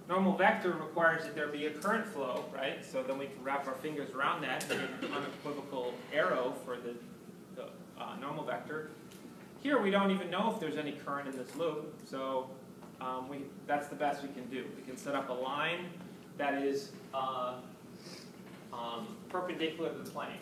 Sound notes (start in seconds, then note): 4.6 coughs